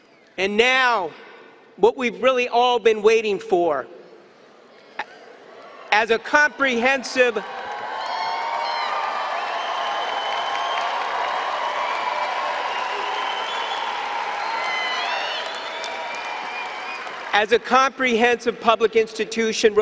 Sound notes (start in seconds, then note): 7.1 cheering